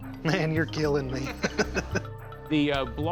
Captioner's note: laughs